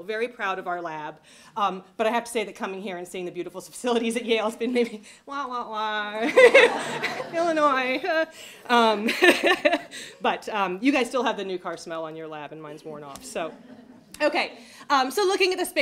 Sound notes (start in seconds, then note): 6.2 laughter; 6.3 laughs; 9.3 laughs